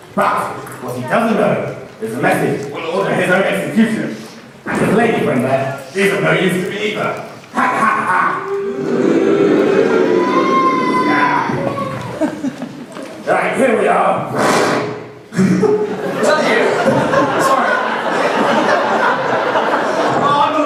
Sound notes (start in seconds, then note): 8.3 boos; 8.8 evil laughter